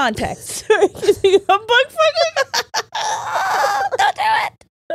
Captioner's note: all laughing